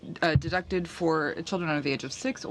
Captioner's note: speaking French